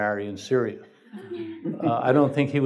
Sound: laughing

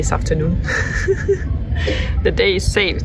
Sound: laughs

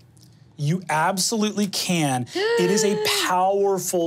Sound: gasps

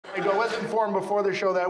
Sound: audience laughs

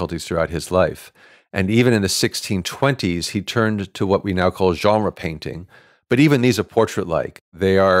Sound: none

